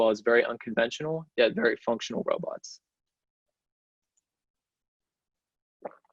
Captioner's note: swallowing